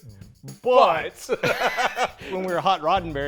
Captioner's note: both laugh